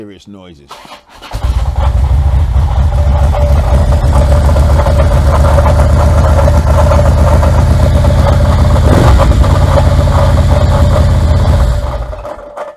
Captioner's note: engine running making noise